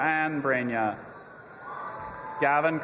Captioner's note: audience applauding and cheering